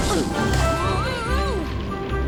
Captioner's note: moaning